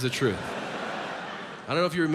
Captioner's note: audience laughs